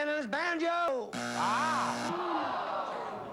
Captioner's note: buzzer